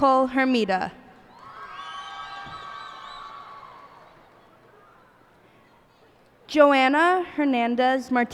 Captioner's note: cheers and applause